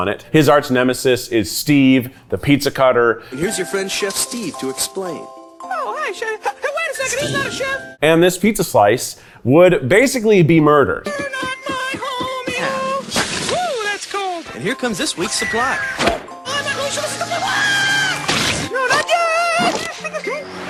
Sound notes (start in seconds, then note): 17.3 Pizza screams